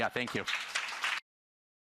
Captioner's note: applause